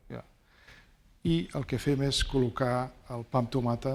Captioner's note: speaking spanish